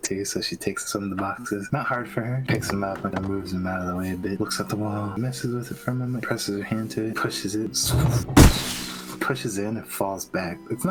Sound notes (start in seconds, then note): 7.8 pshhhh